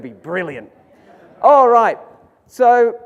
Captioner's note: audience laughs